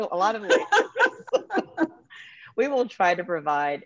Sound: chuckles

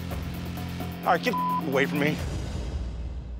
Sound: beep

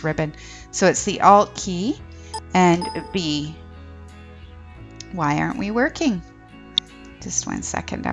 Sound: computer dings again

